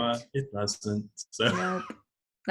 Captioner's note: laughs